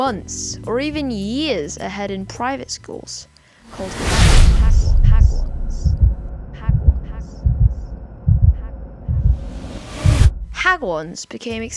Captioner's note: dramatic SFX